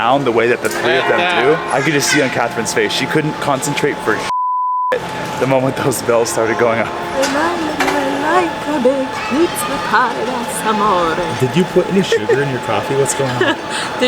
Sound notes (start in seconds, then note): 4.3 beep; 7.9 singing